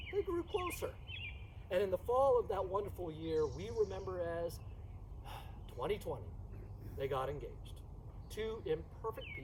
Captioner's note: sigh